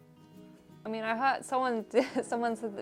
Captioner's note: laughs